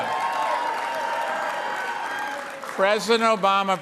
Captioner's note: cheering and applause